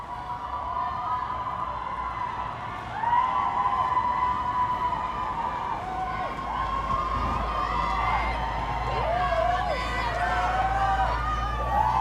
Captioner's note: emergency sound; people shouting